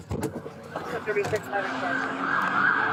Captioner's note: radio chatter